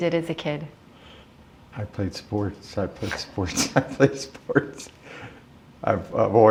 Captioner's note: chuckle